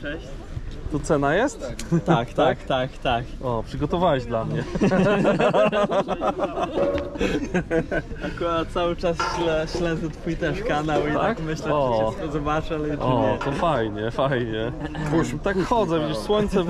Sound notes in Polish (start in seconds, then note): 4.5 śmiech